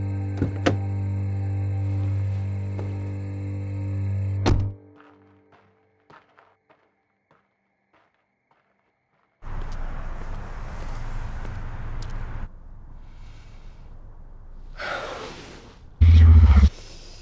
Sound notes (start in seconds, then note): 0.3 door opens; 4.4 door shuts; 14.8 sighs heavily